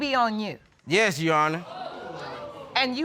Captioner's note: audience exclaiming